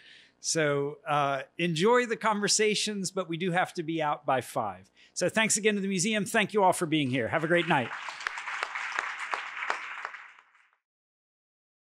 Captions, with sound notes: So enjoy the conversations, but we do have to be out by 5:00. So thanks again to the Museum. Thank you all for being here. Have a great night. [APPLAUSE]